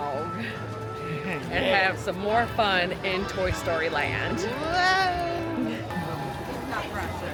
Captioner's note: laughs